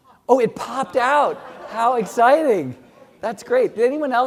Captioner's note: laugh